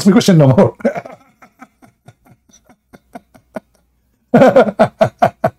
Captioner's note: Ketawa